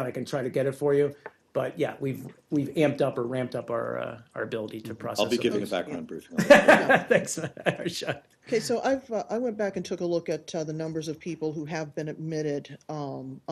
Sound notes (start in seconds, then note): 6.3 laughter